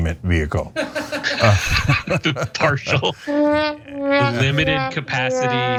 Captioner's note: laugh